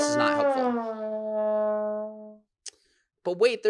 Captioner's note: horn blows